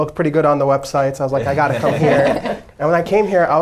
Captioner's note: everybody laughing